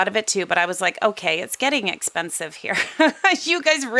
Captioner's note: laughs